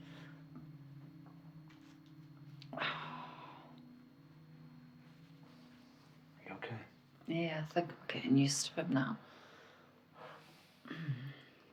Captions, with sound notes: (Lindsey exhales) Are you okay? - Yeah, it's like I'm getting used to it now.